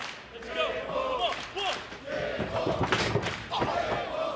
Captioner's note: fans chanting